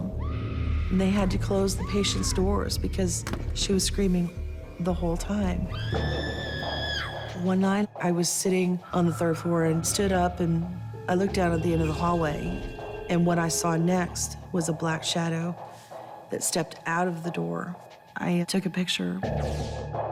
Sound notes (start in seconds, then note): 5.7 scream